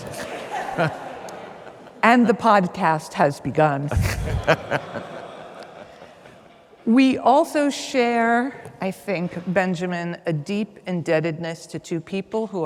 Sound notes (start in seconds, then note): 0.0 audience laughs; 0.2 chuckles; 3.9 laughs; 3.9 audience laughs